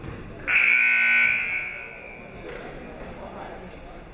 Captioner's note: buzzer rings